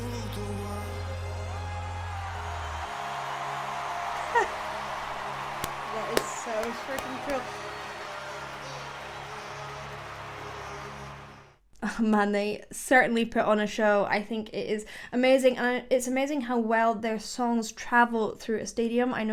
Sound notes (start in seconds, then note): 5.5 claps